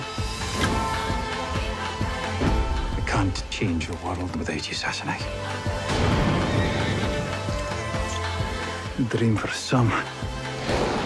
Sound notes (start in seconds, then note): 5.9 thunder claps, horse neighs; 10.1 thunder cracking